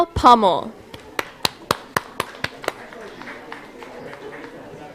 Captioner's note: applause